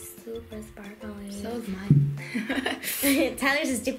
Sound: laughs

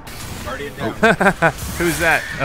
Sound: laughs; voiceover

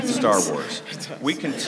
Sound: laughing

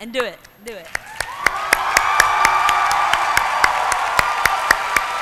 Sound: applause

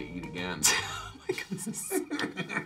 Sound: Nick laughs; laughing

